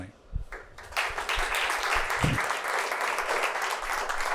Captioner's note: audience applauding